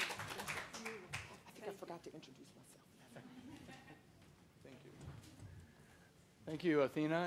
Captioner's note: applause